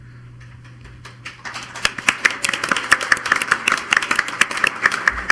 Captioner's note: crowd applauding